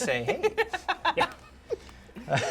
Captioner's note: laughing